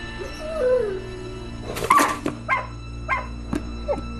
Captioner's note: Merengek